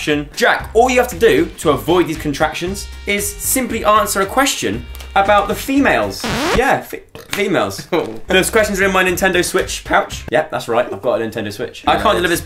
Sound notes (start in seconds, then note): none